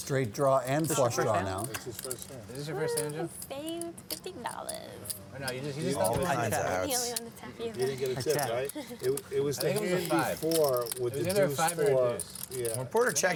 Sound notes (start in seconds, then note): 5.8 chattering; 8.6 laughs